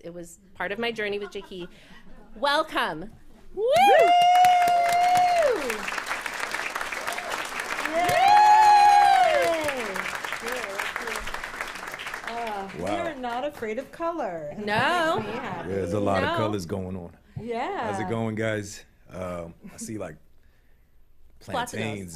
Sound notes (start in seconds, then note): 3.6 cheers; 7.9 cheers and applause